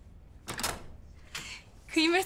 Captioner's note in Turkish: Kapı Açılıyor